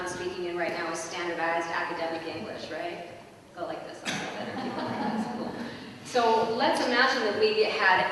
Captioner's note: laughter